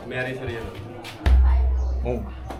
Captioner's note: sound of chest-beating